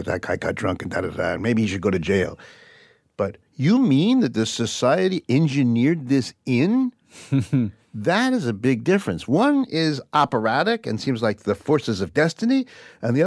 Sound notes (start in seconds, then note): 7.2 laughs